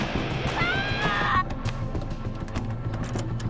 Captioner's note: screams